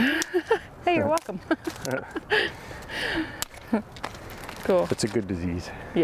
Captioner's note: laughs